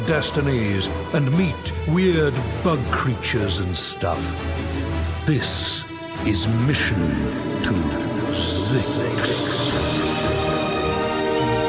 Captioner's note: echoing